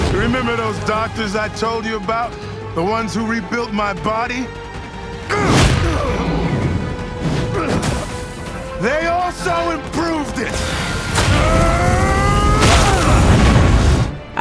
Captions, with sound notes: - Remember those doctors I told you about, the ones who rebuilt my body? (Angstrom grunts) They also improved it. (portal buzzing) (Angstrom grunts)